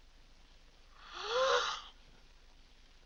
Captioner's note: gasps